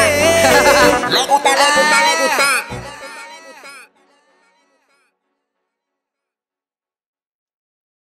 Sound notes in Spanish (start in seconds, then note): 6.7 silencio